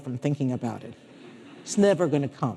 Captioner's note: audience laughing